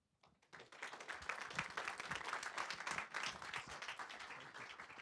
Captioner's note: audience claps